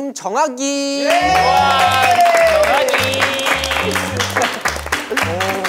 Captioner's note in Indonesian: Tepuk tangan